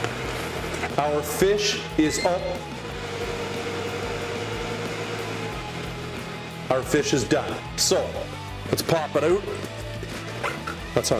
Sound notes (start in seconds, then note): 1.9 air fryer beeping